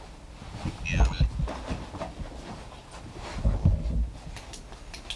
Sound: robot voice sounds

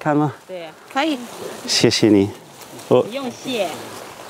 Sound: mandarin chinese

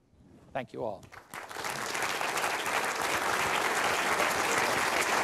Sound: applause

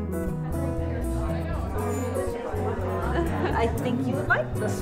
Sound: chatter

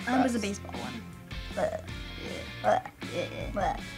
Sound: groaning

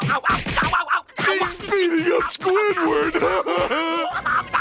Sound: laughing

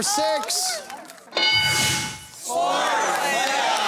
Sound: bell dinging

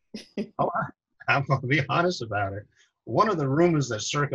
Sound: laughs

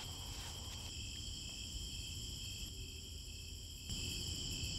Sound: crickets chirping

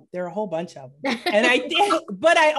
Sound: group laughing

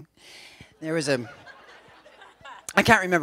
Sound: laughter

